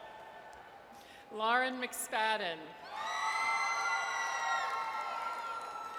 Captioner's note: audience cheers; audience cheers